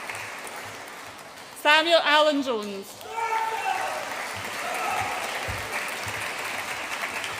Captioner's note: audience applauds and cheers